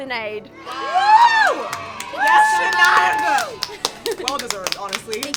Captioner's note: children cheering; women applauding